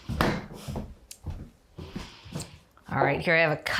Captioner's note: fridge door bangs